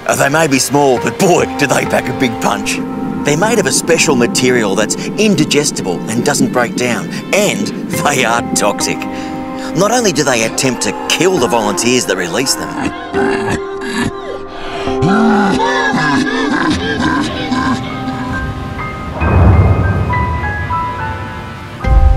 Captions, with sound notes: as they may be small, but boy, do they pack a big punch. They're made of a special material that's indigestible and doesn't break down, and they are toxic. Not only do they attempt to kill the volunteers that release them, (man coughing) (dramatic chord)